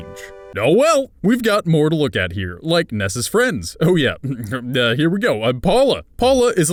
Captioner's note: hrmph